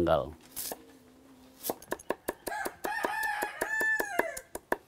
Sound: chopping sounds

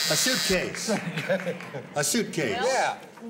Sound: laughs

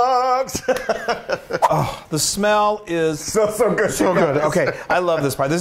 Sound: laugh

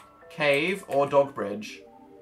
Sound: none

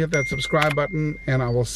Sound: ding

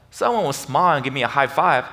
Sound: none

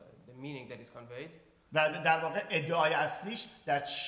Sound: speaking in farsi

